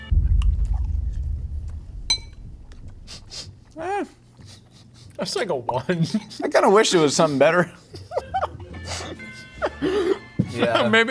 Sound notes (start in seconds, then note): 0.0 concerning music; 4.4 chuckling; 8.8 laughing